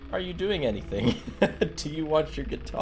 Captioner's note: laughs